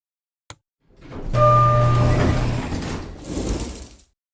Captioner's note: 1987 Otis Series 1 Chime & Elevator Opens